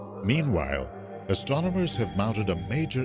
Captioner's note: voiceover